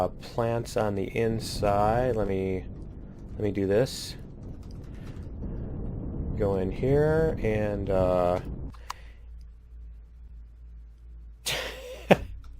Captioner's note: laughs